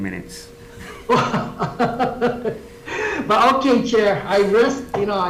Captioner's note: laughs